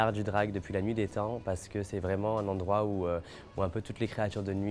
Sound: speaking French

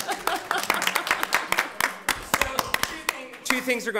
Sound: audience applauding

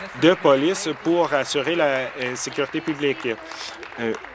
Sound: applause

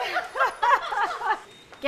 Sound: laughter

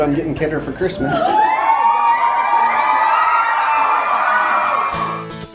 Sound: crowd cheering

